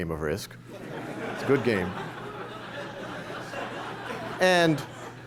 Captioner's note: laughter